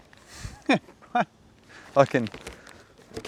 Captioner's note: laughs